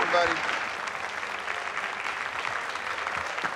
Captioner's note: applause